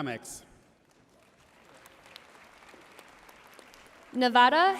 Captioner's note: audience cheering and applauding